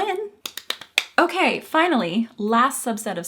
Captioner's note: fast clapping